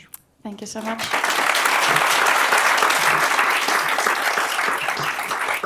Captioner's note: applause